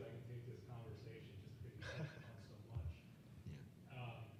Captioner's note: laughing